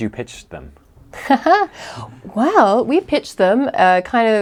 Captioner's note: laughs